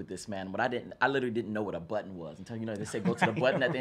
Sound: laughs

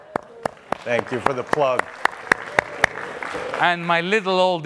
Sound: audience applauding

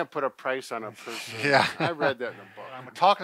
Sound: laughs

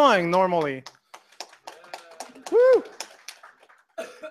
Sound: applause

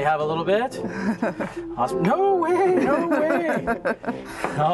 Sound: laughter

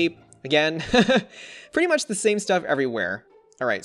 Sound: laughs

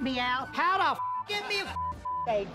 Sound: beep

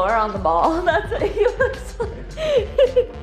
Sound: laughing

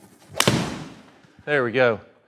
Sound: club smacks

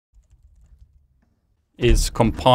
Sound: keyboard clanking

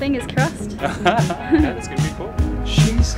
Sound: laughing

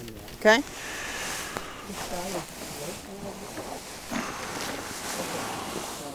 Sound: hay rustling

